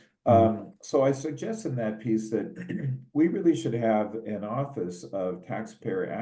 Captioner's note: cough